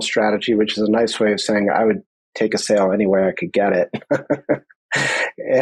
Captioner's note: laughs